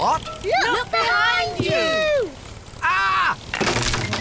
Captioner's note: crunching